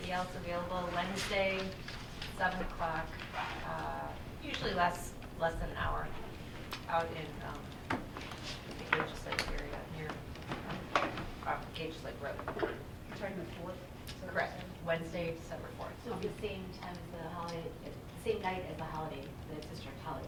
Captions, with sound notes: anybody else would be available Wednesday, at 7 o'clock, usually lasts less than an hour, out in the Villages Lake area, off Gauge Lake Road. >>You're talk about (faintly speaking)? >>Correct, Wednesday, December 4th. >>So, it'll be the same time as the holiday, the same night as the holiday,